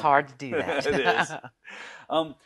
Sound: both laugh loudly

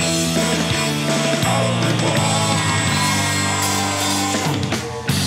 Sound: Loud Ikkan... I mean Quinn Screaming noises

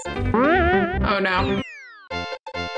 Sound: Mario spring boings

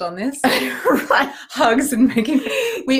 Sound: both laughing

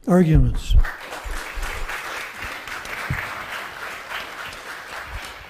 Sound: audience's claps

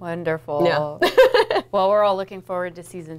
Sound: laughs

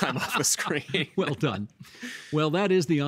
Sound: laughing

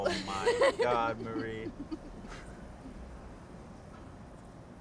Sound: laughing

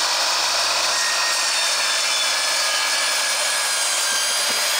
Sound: saw blades squealing

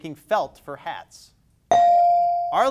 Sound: bell dings

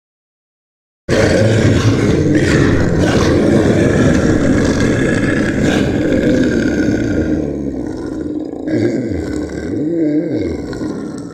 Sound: sound of monster

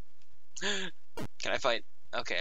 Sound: gasp

